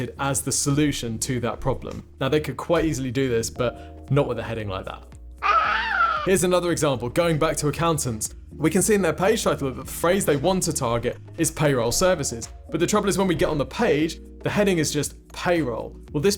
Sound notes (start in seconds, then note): 5.4 baby cooing